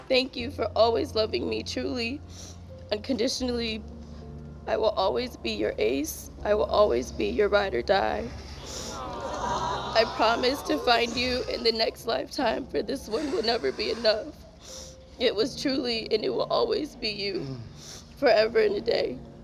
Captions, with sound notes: - Thank you for always loving me truly, unconditionally. I will always be your ace, I will always be your ride or die. (guests exclaiming) I promise to find you in the next lifetime, for this one will never be enough. It was truly, and it will always be you, forever and a day.